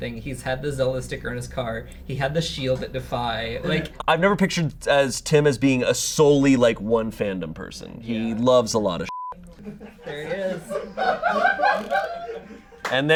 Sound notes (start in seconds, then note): 9.0 beep; 9.4 audience laughing